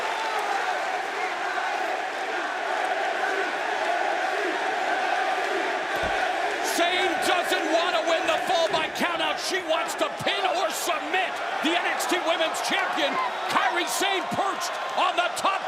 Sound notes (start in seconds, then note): 0.2 crowd chatter; 2.7 crowd cheering